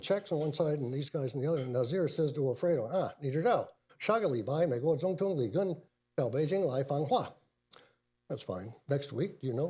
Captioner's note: speaks in Mandarin